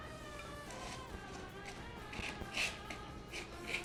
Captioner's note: scraping